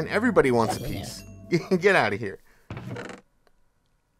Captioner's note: laughs